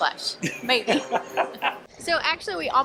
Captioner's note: laughing